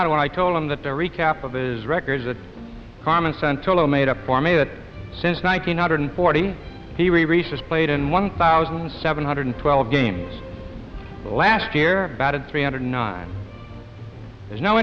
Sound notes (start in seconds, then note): none